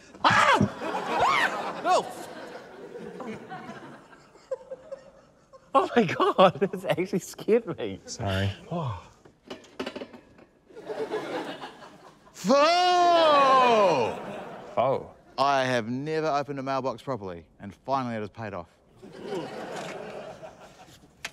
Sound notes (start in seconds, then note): 4.4 laughs; 10.7 laughter